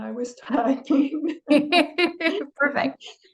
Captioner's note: laughter